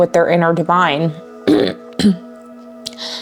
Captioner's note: clears throat